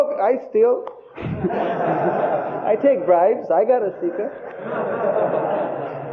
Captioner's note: devotees laughing